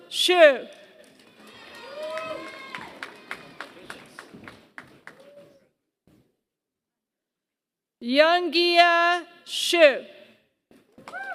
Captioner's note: applause; applause